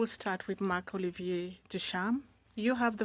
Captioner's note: speaking French